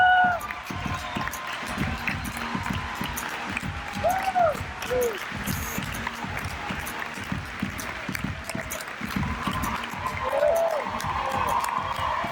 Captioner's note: crowd cheers and applauds